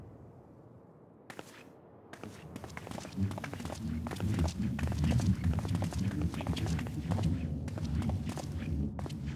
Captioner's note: footsteps